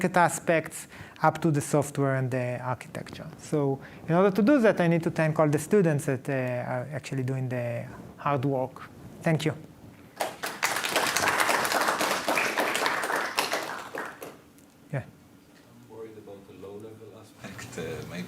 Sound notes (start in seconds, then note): 10.1 applause